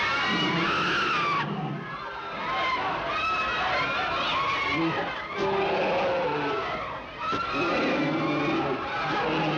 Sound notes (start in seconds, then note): 0.0 people screaming; 0.2 bear growling